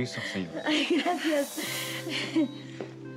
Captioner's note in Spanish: Risas